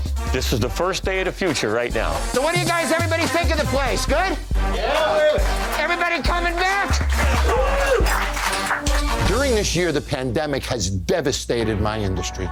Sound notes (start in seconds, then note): 4.7 cheering